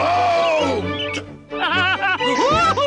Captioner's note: Toad laughs